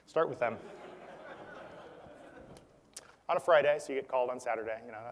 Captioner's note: laugh